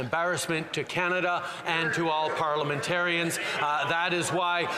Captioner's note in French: voix de l'interprète